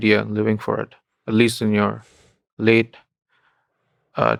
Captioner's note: none